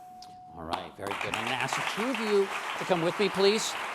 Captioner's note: bell dings; applause